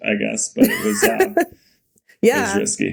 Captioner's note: Mikaela laughing